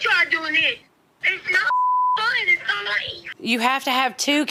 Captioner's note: beep